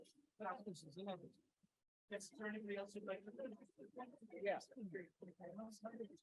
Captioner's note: people chattering indistinctly